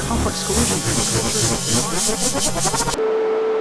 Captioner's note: audio warbling; audio beeping; static scratching